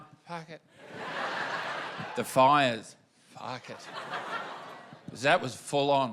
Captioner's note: laughter